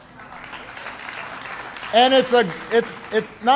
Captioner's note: applause